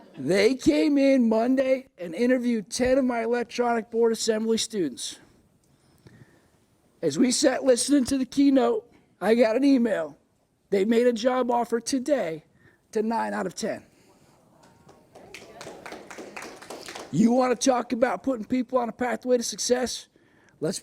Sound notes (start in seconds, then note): 14.6 applause